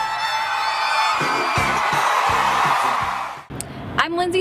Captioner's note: crowd cheering